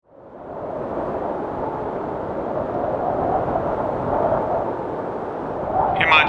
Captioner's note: wind noise